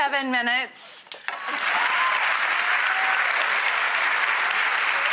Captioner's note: audience claps